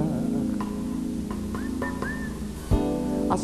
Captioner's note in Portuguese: assobios